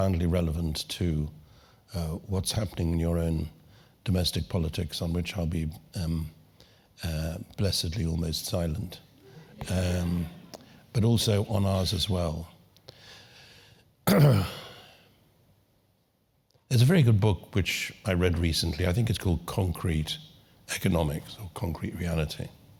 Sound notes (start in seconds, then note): 9.2 laugh; 14.0 cough